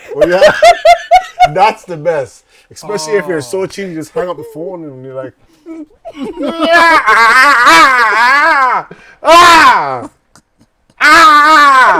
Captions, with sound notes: [LAUGHING] That's the best, especially if you're so cheesed, you just hang up the phone and you're like-- [SCREAMING]